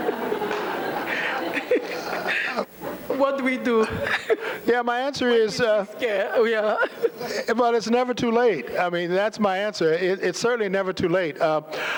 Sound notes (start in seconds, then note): 3.9 laughter